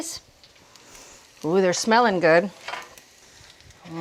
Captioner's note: patties sizzling